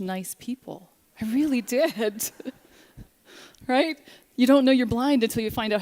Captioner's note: laughter